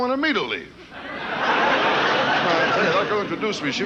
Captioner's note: audience laughing